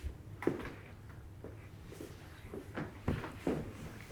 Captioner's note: feet stepping